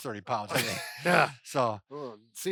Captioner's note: laughing